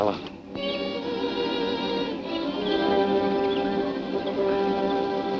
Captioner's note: birds chirping